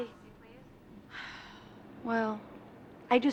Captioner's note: sighs